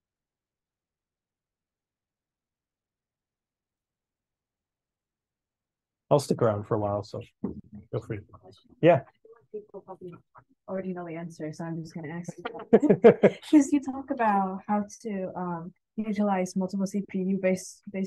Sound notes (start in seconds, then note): 12.2 laughs